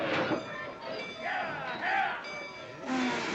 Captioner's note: station bell ringing; men yelling at cattle; cattle noises